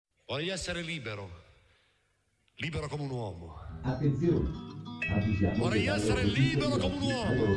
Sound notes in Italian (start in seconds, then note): 3.9 voce registrata, ovattata